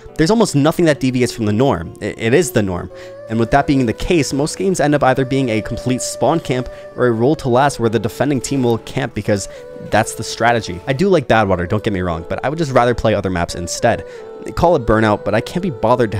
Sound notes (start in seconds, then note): none